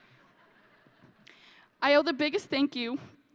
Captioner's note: audience laughing